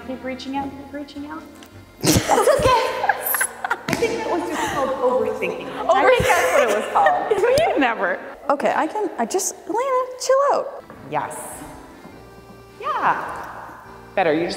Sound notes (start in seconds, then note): 2.0 laughing; 6.5 laughing